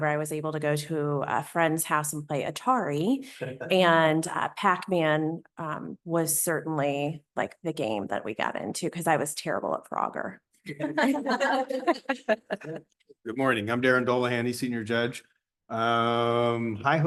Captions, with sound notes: WAS ABLE TO GO TO A FRIEND'S HOUSE AND PLAY ATARI, AND PAC MAN WAS CERTAINLY, LIKE, THE GAME THAT WE GOT INTO BECAUSE I WAS TERRIBLE AT FROGGER. [LAUGHTER] >> GOOD MORNING. I'M DARRIN DOLEHANTY, WAYNE SUPERIOR COURT JUDGE. HI HO!